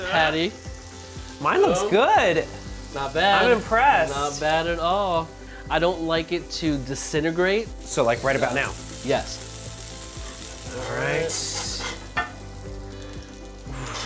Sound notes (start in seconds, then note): 9.0 pan sizzling; 11.3 pan clanks